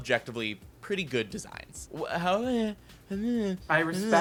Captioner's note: shushing